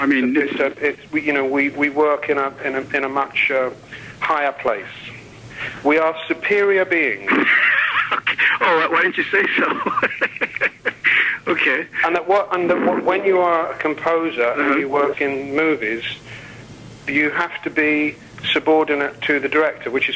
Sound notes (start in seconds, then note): 7.2 interviewer laughs